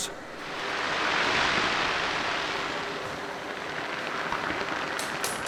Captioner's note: molten bronze sizzling